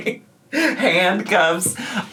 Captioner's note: laughs